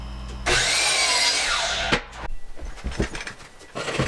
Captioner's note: saw whirring